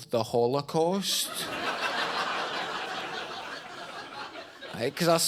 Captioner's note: audience laughs